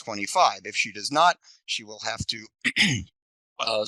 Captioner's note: coughs